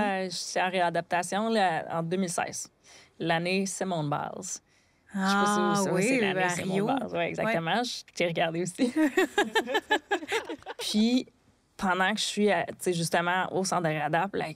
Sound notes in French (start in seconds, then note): 8.9 rires